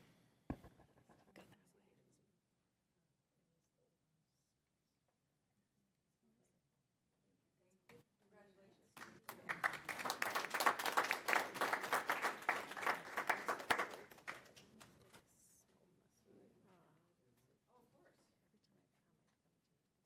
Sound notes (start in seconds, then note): 14.2 applause